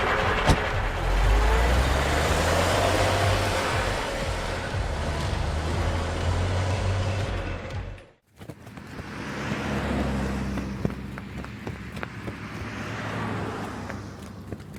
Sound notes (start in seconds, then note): 0.3 door closing; 8.5 cars driving; 8.6 wings flapping